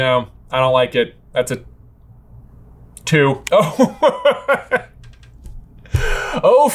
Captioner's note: laughing